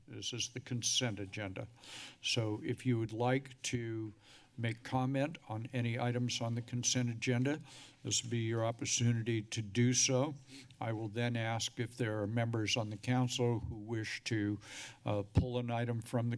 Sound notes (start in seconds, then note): 1.7 speech breath